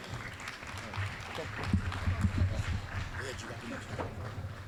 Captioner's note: applause